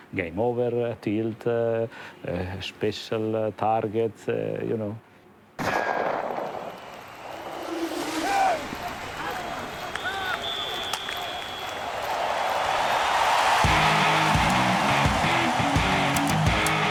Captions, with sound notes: Game over, tilt, special target, you know. [gun ricochet] [sports ambience] [crowd cheering] [heavy rock music]